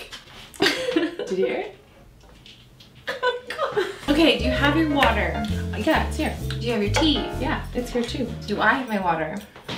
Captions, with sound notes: (laughs) Did you hear it? [Knee Creaking Sounds] - Oh God. Okay do you have your water? - Yeah, it's here. - Do you have your tea? - Yeah, it's here too. - Do I have my water?